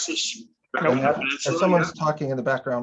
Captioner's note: people chattering